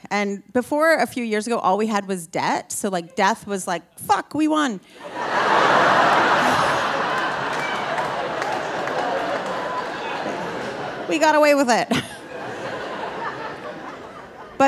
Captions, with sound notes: And before a few years ago, all we had was debt, so, like, death was, like, "Fuck, we won. (audience laughing) We got away with it." (laughs)